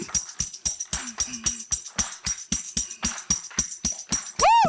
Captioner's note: audience clapping